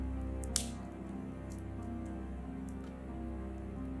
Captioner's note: twig snaps